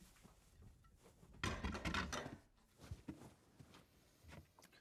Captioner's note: dishes clattering